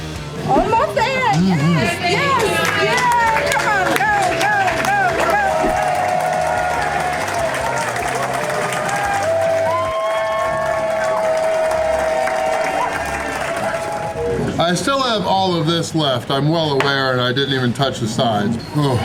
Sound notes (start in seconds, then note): 5.9 crowd clapping and cheering